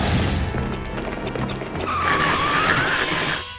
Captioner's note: hooves screeching; metal grinding